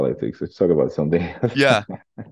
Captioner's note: laughs